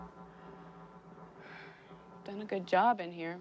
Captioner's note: sighs